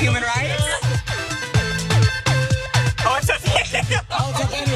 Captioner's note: laugh